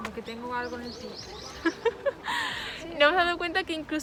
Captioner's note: laughs